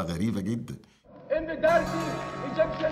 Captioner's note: Ayman al-Zawahiri pleading; background music